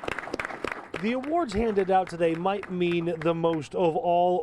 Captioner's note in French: applause